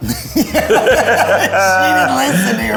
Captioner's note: both laughing